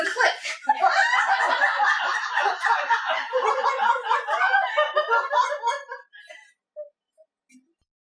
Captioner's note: audience laughter